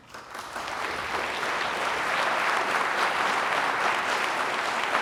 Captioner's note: audience applauding